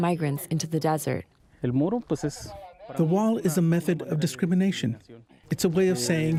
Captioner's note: through translator